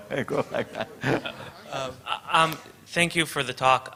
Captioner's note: chuckles